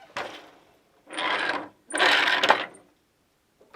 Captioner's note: noise of shuttle moving